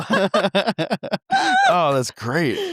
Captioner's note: both laughing